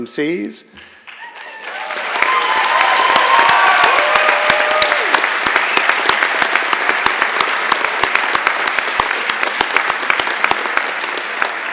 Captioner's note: applause